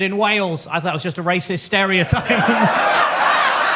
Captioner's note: audience laughs; laughs